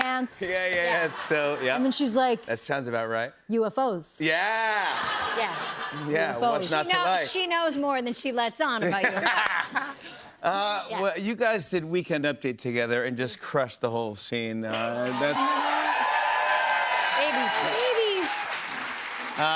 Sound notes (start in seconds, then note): 8.8 laughter; 14.8 cheers and applause